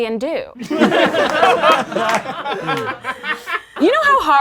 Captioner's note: laughing